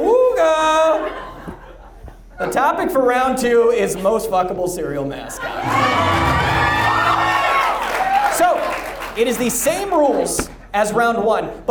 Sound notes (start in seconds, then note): 5.4 audience laughs